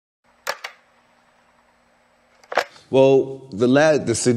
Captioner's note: film rolling